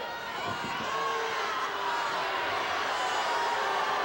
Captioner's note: audience booing